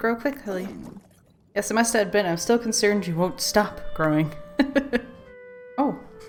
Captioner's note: laughs